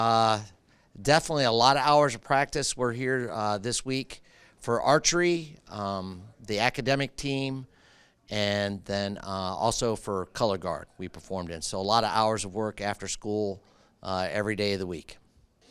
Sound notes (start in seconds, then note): none